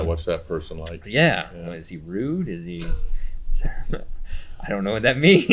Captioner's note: chuckles